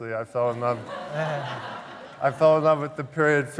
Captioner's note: laughter